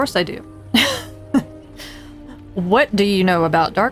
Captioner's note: laughs